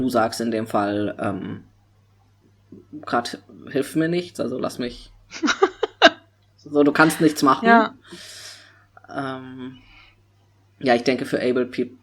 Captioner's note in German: lacht